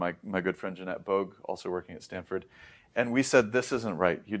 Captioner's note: inhales